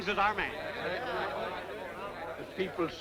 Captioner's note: all murmuring